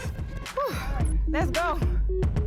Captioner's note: sighs